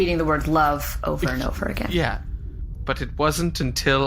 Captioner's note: haltingly